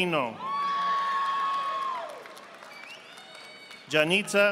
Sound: audience applauding

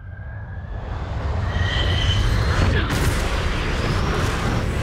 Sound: fighter jet engine noise

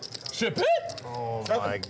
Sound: exclaiming excitement

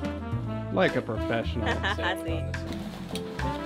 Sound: laughter

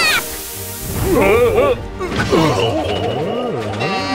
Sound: guards groan

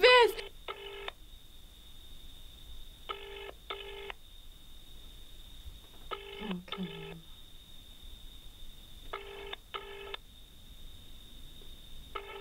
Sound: phone ringing

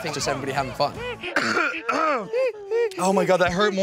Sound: coughing

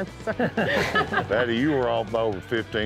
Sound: laughter

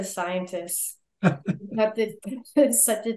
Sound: laughing

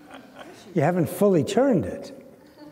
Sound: laughter

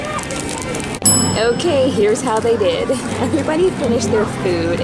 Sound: bell chiming

